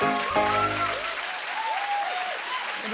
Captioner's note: cheers and applause